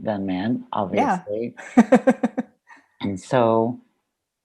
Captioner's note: laughing